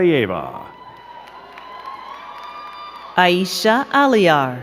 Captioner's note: crowd cheering and clapping